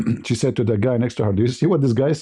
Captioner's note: berdehem